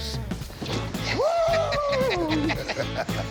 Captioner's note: Rick laughs